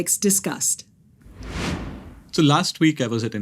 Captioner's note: graphics whooshing